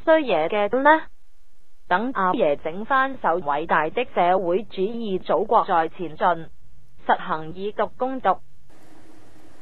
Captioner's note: Mandarin